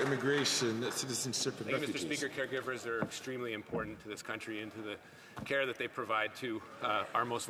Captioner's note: some Applause